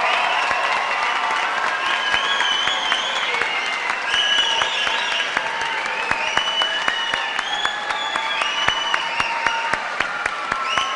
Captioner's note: cheers and applause